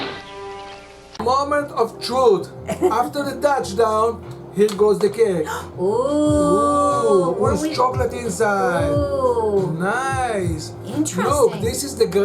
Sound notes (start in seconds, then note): 2.6 giggles; 5.5 gasps